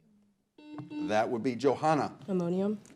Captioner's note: buzzer blares